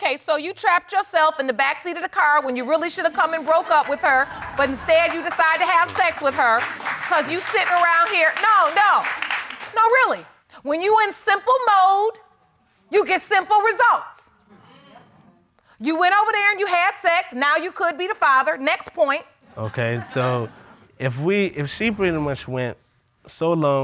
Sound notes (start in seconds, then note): 7.2 applause